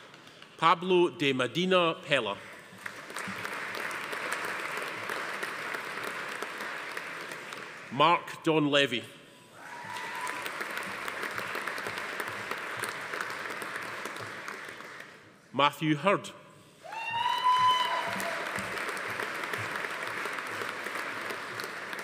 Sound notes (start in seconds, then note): 2.6 audience applauding; 9.6 attendees cheering; 9.6 audience applauding; 16.8 attendees cheering; 16.9 audience applauding